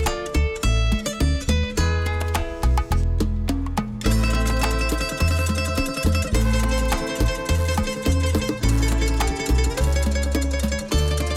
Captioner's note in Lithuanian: Plojimai